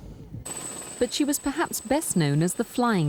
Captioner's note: helicopter whirring